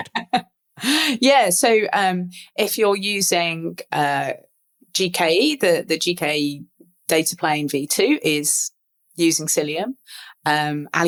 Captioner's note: laugh